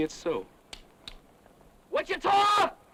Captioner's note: gun clicks